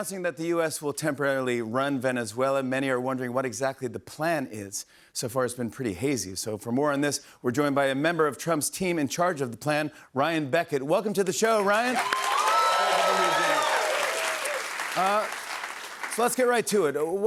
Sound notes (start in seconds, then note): 11.6 cheers and applause